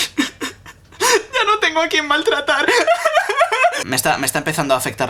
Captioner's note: sob